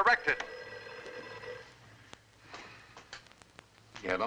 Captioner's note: phone ringing